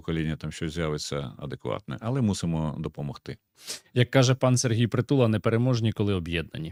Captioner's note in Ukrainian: сопіння